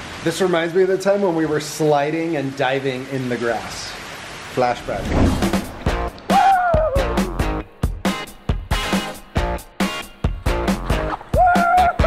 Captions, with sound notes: - This reminds me of the time when we were sliding and diving in the grass. Flashback. (cheering) (upbeat music)